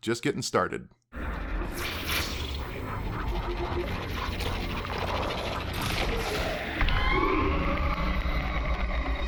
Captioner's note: gameplay noises